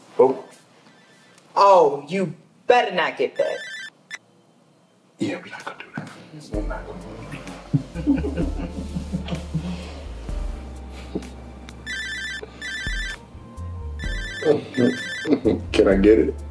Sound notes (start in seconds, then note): 7.4 Brandon and Heather laughing; 10.9 phone ringing; 15.2 chuckles